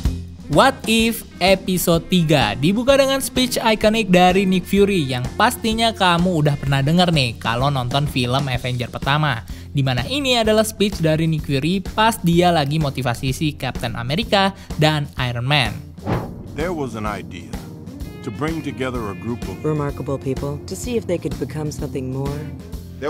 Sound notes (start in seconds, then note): 15.9 transition sound